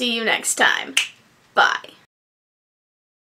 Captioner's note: finger snaps